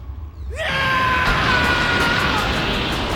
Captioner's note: Goku screaming